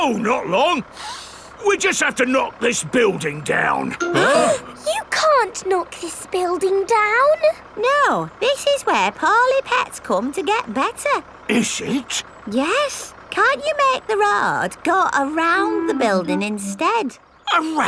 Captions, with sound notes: No, not long. (SNIFFS) We just have to knock this building down. (ALL GASPING) You can't knock this building down! No! This is where poorly pets come to get better! Is it? Yes! Can't you make the road go around the building instead?